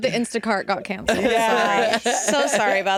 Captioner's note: chuckles